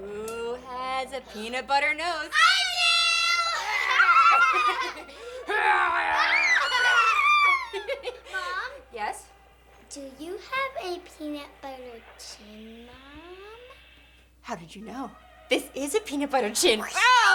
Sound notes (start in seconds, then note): 3.2 children laughing; 4.0 Maddie growling; 17.1 children laughing